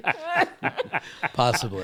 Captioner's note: all laughing